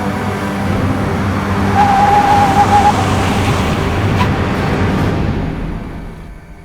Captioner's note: tires screeching to a halt